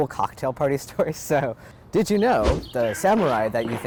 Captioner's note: fighting noises